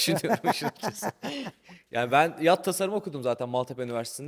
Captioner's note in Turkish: kahkaha